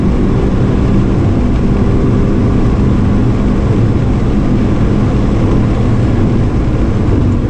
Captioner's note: engine rumbling